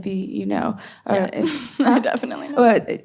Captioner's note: laughs